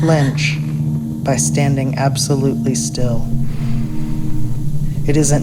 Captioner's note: sound of gasp; sound of deep breath